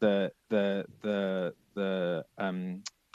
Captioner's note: chuckles